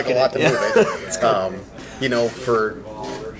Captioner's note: laughs